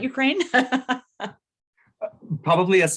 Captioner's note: laughs